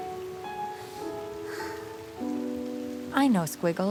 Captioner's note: sighs